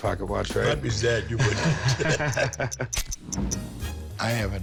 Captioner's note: laughter; ticking